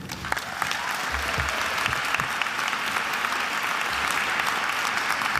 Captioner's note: attendees applauding and cheering